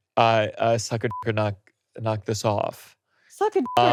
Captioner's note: beeps